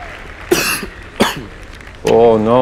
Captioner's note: cheers and applause; coughing